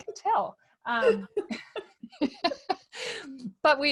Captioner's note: laughing